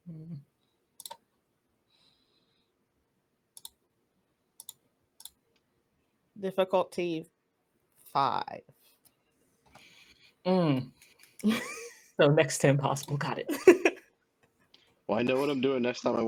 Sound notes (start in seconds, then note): 6.7 Roll20 clicking